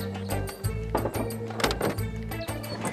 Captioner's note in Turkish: Kapı açılma sesi